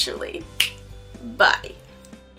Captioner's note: finger snaps